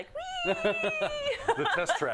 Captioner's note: laugh